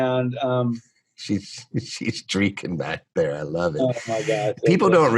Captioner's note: chuckles